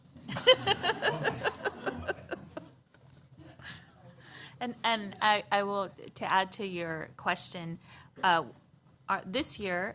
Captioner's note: laughter